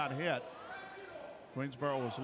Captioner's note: yelling